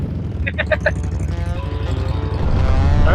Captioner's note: laughing